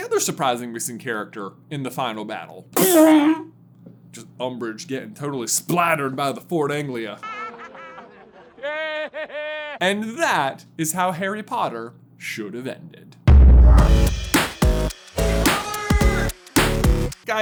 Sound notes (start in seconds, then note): 9.8 crowd laughter